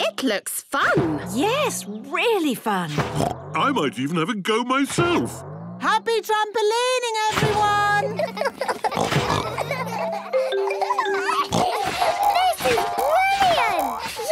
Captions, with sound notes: - It looks fun! - Yes, really fun! (snorts) - I might even have a go myself! - Happy trampolining, everyone! (all laughing) (giggles, snorts) - This is brilliant!